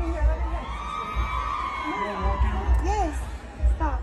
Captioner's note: fans screaming